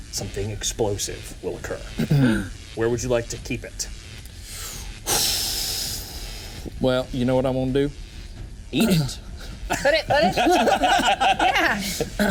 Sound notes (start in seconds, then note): 4.6 Walker sighs; 9.7 teammates laughing